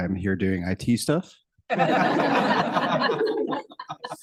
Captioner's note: laughter